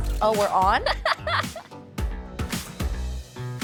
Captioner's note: laughing